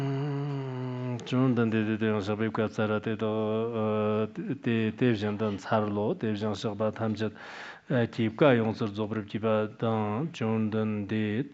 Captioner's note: giving oral transmission in Tibetan